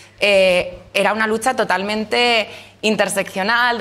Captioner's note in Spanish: none